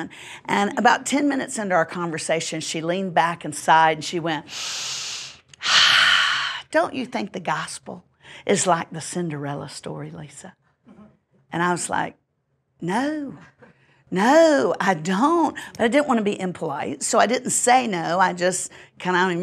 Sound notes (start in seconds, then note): 4.5 inhale; 5.6 sigh